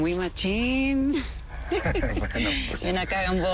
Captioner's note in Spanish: Risas